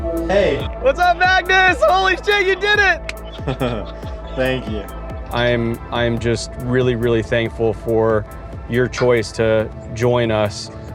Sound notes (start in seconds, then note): 3.2 chuckles